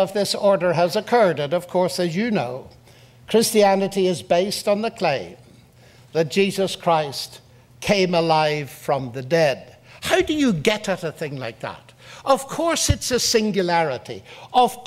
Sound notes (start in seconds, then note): none